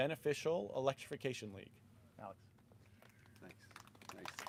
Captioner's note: applause